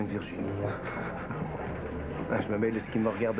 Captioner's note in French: Rire